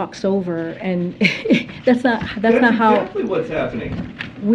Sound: chuckling

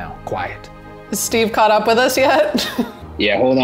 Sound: laughs

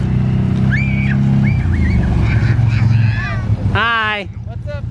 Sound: kids screeching

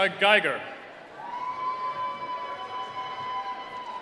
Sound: cheering

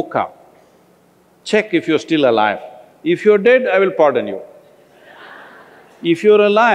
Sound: laughter

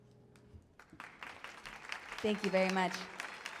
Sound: audience applauds

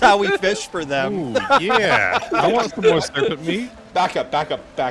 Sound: laughter

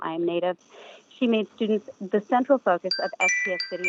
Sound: chime

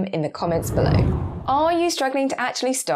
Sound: air whooshing

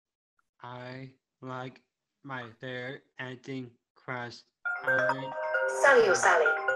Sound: cellphone ringing

